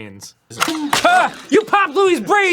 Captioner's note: pop